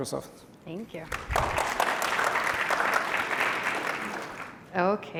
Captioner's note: applause